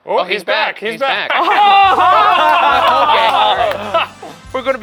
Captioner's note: group cheering